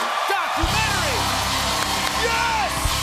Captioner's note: cheers and applause